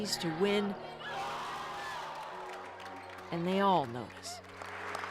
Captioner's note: applause